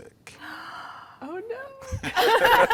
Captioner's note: gasp; laughing